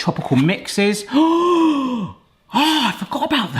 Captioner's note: gasping